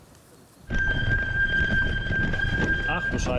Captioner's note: squealing brakes